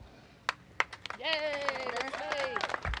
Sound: cheers and applause

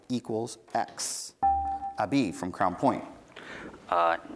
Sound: buzzer beeps

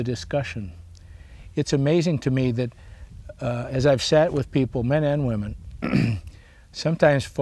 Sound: clears throat

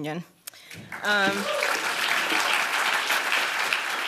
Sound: applause

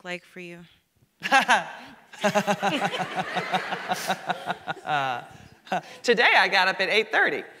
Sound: laughs

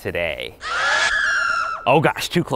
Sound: screaming

